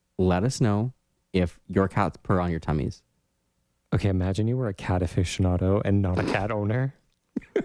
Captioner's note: laugh